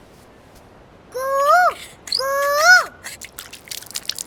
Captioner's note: mimicking cuckoo's voice